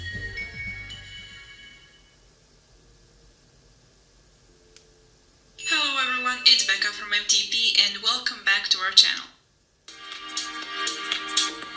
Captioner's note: sound from the phone